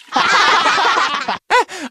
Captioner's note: all laughing